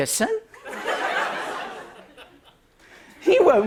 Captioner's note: laughter